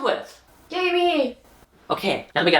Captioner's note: sarcastic